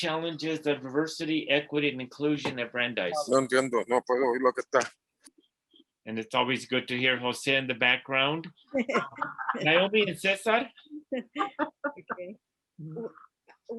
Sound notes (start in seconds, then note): 4.4 foreign language